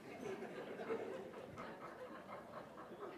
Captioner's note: laughter